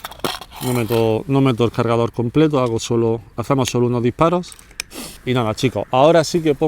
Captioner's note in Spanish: resoplido